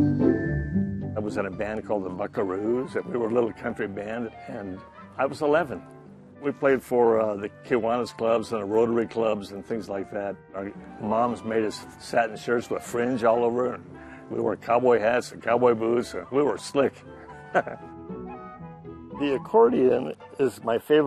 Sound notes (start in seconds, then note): 17.2 laughs